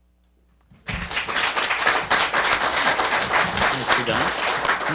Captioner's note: audience clapping